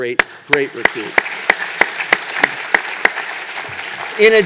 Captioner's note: applause